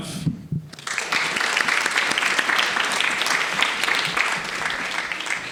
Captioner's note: audience applauding